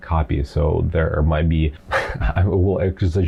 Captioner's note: laughs